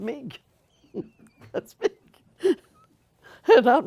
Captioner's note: laughter